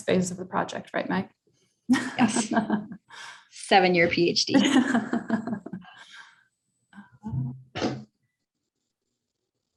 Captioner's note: chuckles